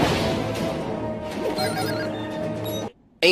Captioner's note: beep beep